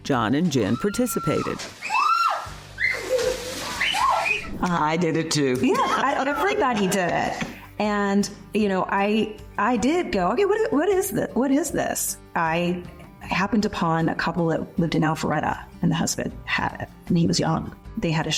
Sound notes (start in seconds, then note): 0.7 screaming, squealing